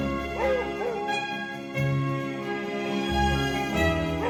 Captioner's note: dog barking